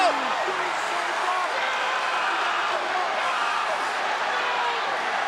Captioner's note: crowd cheering